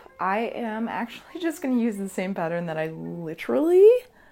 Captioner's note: none